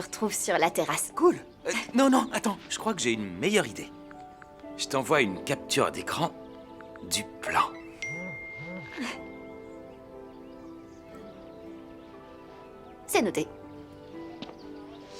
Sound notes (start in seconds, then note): 8.0 phone chimes